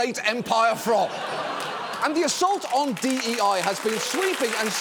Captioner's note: audience laughing, applauding